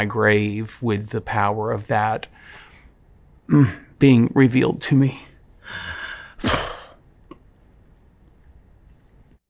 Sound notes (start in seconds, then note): 5.7 exhales shakily